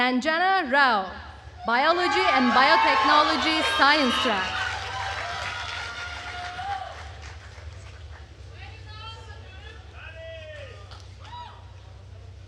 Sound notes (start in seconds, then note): 5.3 attendees cheering and applauding